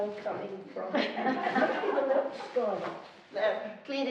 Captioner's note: laughing